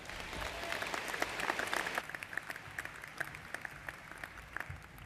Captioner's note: applause